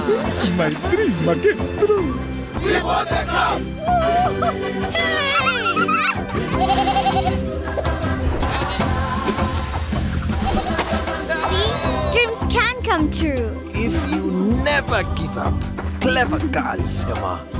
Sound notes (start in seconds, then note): 6.5 bleating